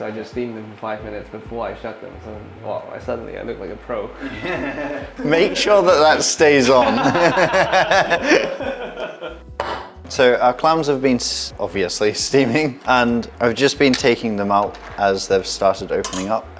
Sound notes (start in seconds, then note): 6.7 laughter